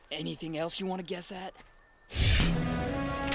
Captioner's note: air whooshes; guns click